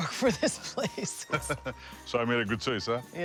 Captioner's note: laughter